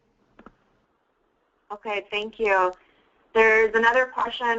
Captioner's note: voiceover